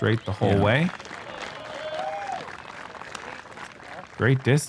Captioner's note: cheering